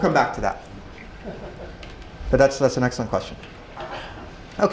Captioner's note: laugh